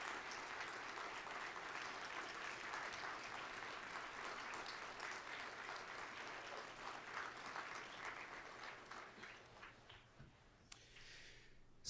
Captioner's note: applause